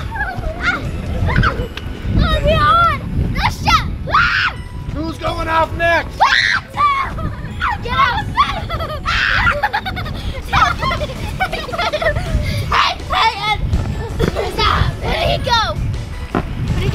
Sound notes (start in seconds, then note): 6.2 girls scream; 10.7 girl giggling